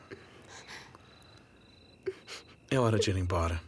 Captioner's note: sobs